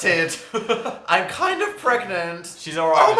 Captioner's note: giggles